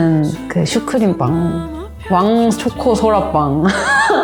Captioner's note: laugh